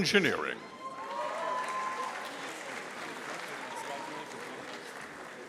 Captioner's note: audience applauding